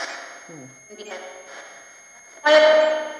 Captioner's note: ghostly voices warbling